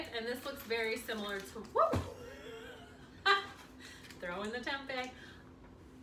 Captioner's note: laughs